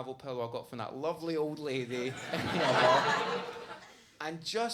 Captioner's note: audience laughs